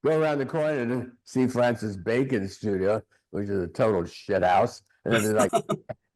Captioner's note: laughing